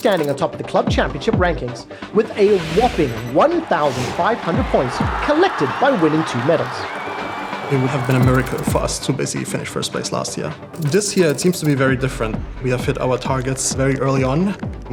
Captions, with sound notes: on top of the Club Championship rankings with a whopping 1,500 points -collected by winning two medals. -[crowd cheering] It would have been a miracle for us to basically finish first place last year. This year it seems to be very different. We have hit our targets very early on.